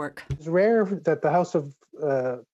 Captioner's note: speaking French